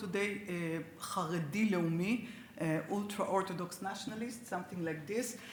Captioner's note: speaks Hebrew